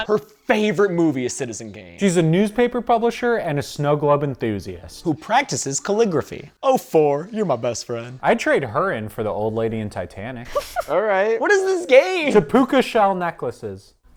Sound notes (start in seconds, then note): 10.4 laughter